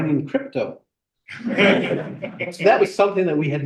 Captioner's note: laughter